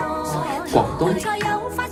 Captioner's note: Cantonese